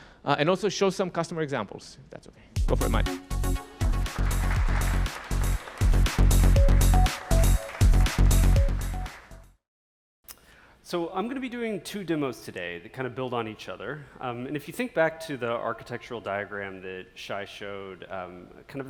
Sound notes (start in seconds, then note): 2.6 upbeat music; 3.7 audience clapping